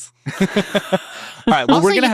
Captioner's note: laughs